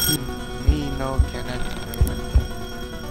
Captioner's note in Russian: на испанском